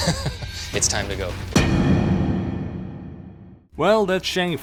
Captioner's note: thud